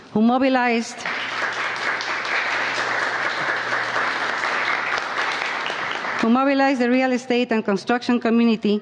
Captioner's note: applause